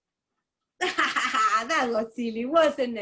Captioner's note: laughs